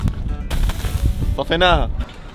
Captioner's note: splashing water